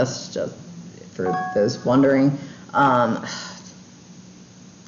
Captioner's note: chimes